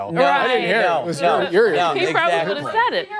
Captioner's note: laughter